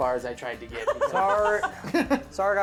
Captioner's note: laughing